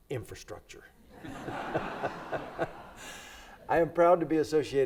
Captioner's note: everybody laughs